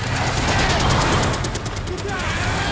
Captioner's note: tires screeching